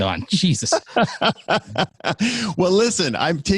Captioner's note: laughing